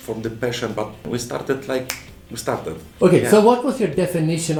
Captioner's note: snaps finger